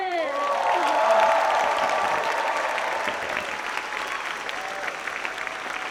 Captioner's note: audience applauds and cheers